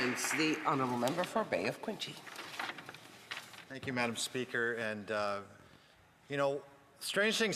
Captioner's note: some Applause